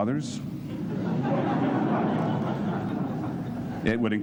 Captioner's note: laughter